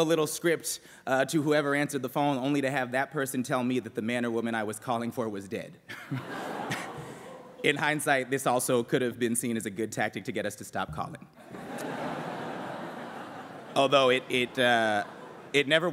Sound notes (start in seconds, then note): 6.0 laughs; 11.4 laughter